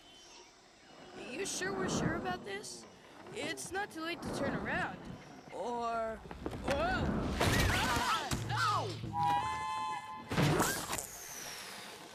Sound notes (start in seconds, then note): 9.1 train whistle blows